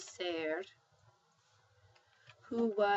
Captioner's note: spanish